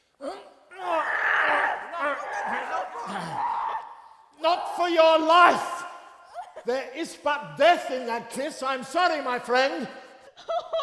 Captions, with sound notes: [Guttural screaming.] Not for your life. There is but death in that kiss. I'm sorry, my friend.